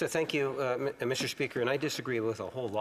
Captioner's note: speaking French